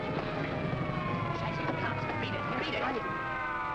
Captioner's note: siren wailing